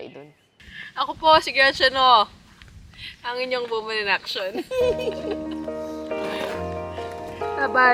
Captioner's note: laughs